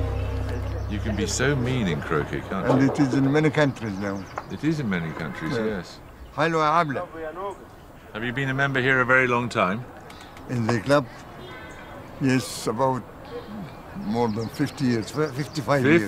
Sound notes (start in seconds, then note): 6.4 speaks arabic